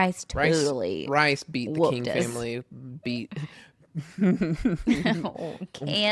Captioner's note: laughs